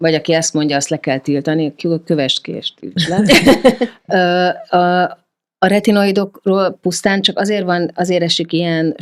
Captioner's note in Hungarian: nevetés